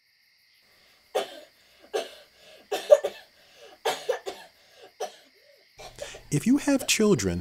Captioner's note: coughing